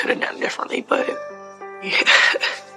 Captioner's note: chuhuckckleleles